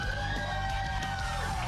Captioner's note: cheers and applause